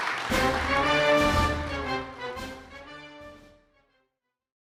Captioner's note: applause